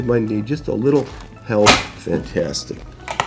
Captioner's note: table clicks